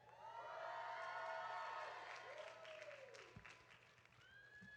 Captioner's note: audience cheering